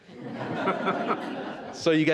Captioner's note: all laughs